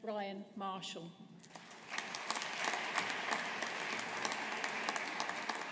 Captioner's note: audience applauding